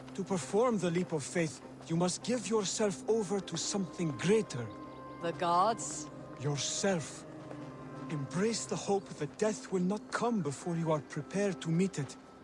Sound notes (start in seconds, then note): none